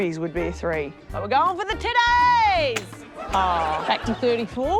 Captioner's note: laughter